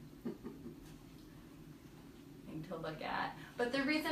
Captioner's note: laughs